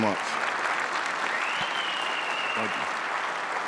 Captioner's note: crowd cheering; crowd clapping